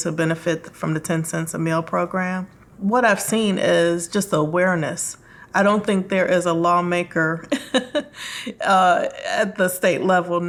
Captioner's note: laughs